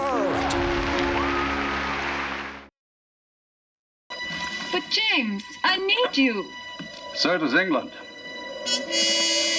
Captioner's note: applause